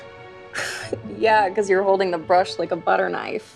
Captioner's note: chuckles